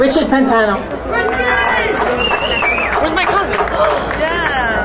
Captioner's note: crowd cheering